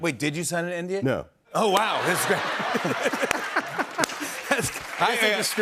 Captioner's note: laughter